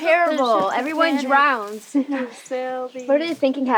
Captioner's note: chuckles